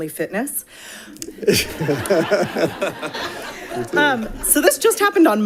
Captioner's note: audience laughing